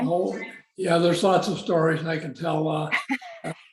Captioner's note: laughter